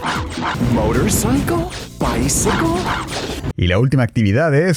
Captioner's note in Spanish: en tono como de pregunta